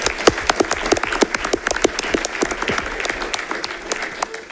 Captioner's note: audience applauding